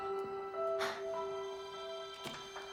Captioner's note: exhales